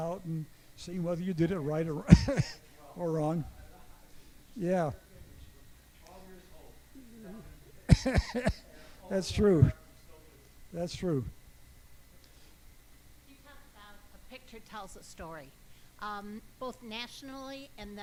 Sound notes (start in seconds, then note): 7.8 chuckles; 8.4 speaks faintly